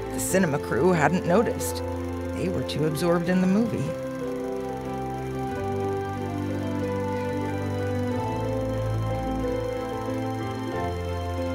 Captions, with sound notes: The cinema crew hadn't noticed, they were too absorbed in the movie. (reel grinding) (soft music)